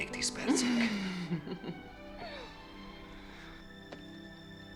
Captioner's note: chuckling